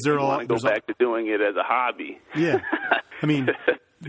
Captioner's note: laughs